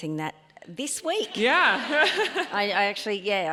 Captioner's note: laughs; audience laughs